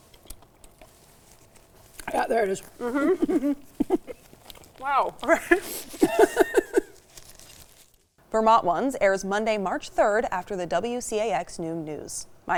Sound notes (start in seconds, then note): 2.7 giggling; 5.2 laughing